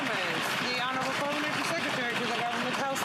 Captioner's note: some Applause